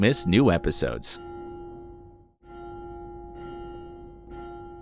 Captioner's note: bell dings